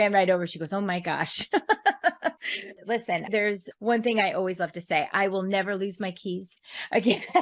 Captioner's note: laugh